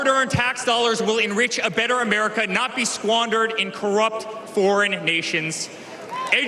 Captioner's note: cheers and applause